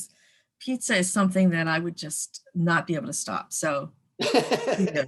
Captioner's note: laughing